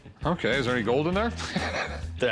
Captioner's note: laughs